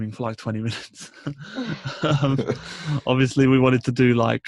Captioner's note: laughs